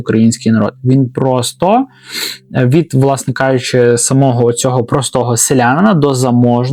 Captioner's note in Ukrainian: сопіння